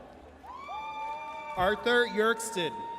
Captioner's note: audience cheers